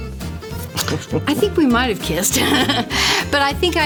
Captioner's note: laughter